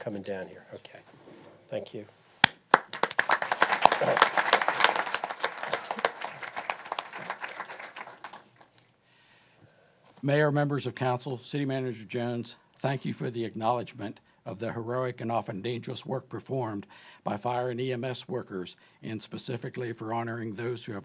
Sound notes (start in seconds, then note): 7.2 applause